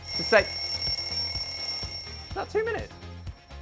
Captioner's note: bell ringing